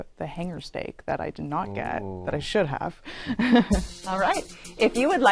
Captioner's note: laughs